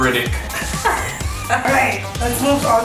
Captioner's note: laughter